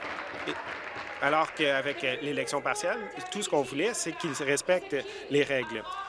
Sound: applause

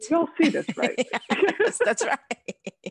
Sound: both laughing

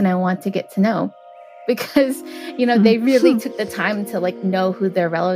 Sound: chuckles

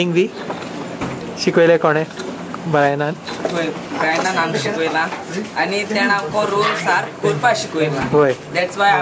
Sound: speaking in the Salcete dialect

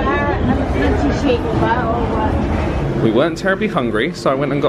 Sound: people chattering

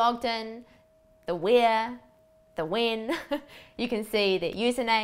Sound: chuckles

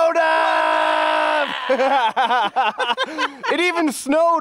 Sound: laughing

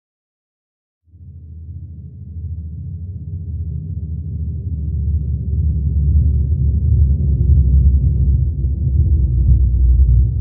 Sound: boom sound

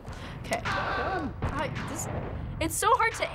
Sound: firing; stammers

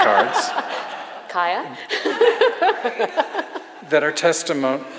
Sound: audience laughs; laughs

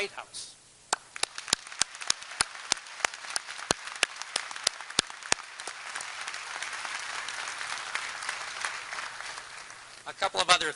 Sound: applause

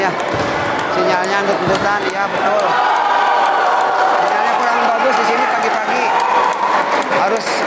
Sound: applause

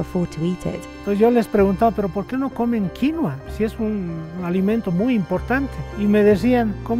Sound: speaking in foreign language

